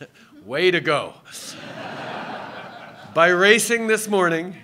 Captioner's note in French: Rires